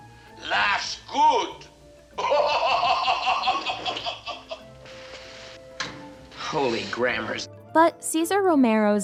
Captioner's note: laughs